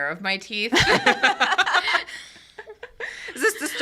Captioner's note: all laughing